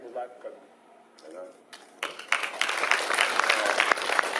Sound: applauding

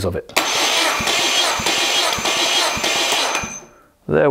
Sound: engine start

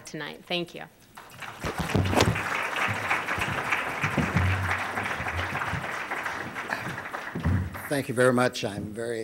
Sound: applause

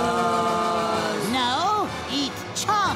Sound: groaning

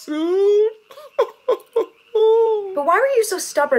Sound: crying

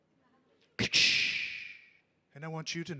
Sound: wind and thunder sound mimic

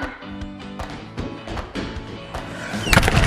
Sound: shoes thudding; door thudding

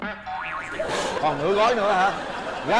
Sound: laugh

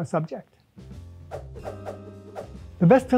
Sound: upbeat jazz music; movie titles whooshing

